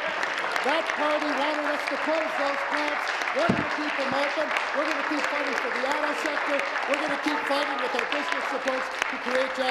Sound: applause

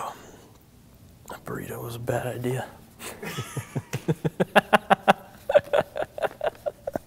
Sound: laughs

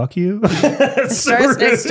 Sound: laughs

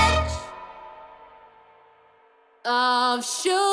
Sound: echo

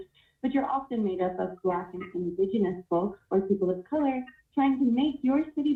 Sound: distortion

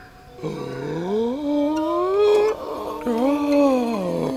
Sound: might gasp

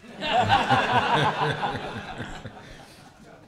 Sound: laughter

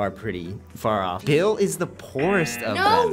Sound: buzzer

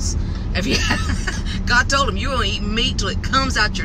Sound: laughs

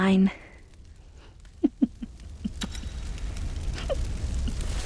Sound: sinister laugh

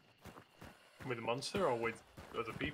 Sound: gunshots continue

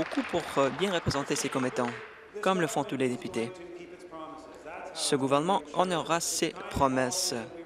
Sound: applause

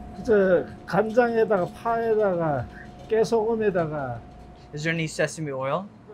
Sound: speaking in Korean

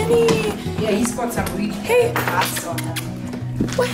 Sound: kissing sounds

